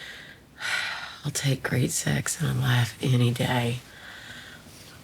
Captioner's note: sighs